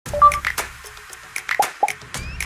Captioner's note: chiming; rhythmic music; popping